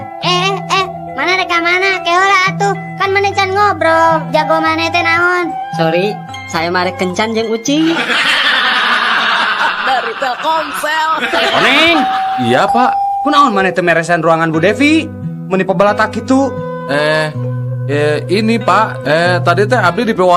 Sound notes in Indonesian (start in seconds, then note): 7.8 tertawa